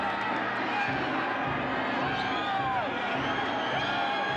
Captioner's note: audience cheering